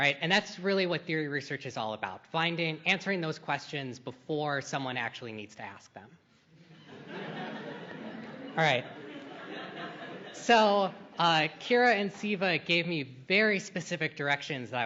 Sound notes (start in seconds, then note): 6.6 laughter